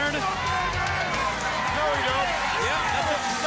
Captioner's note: crowd chatter